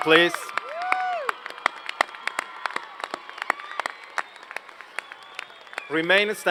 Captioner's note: applause